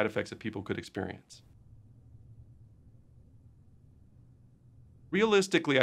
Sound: silence

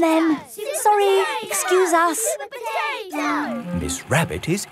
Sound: children chanting

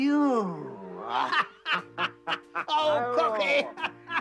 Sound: Pop and Ishikawa laugh

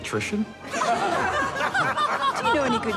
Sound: all laughing

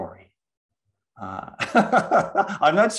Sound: laughs

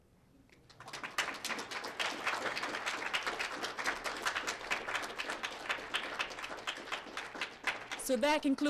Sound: applause

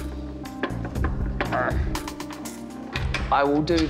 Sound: grunts

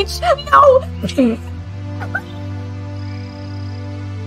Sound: laughing in disbelief

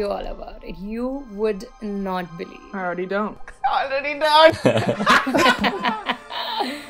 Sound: laughter

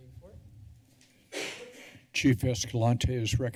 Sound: coughing

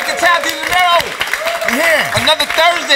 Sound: applause

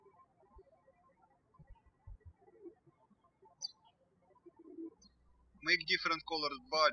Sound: birds chirping

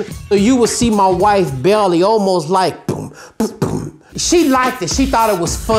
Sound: beatboxing

